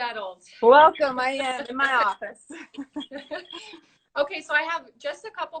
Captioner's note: both laughing